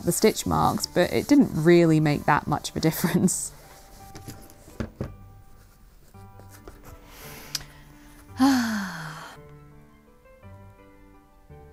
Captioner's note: sighs heavily